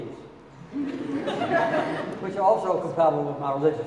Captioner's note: audience laughing